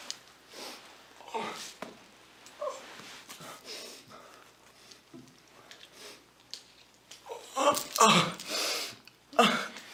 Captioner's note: York groaning